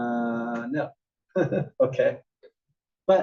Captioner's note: laugh